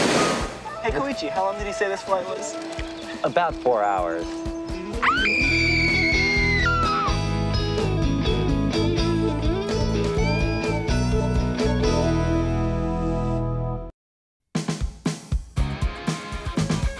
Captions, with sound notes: Hey, Koichi, how long did he say this flight was? About four hours. [screaming] [theme music plays]